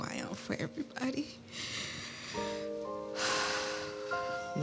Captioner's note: sighs